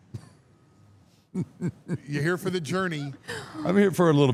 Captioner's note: Mark laughs